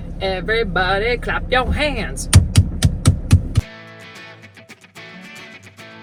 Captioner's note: taps steering wheel; upbeat strumming music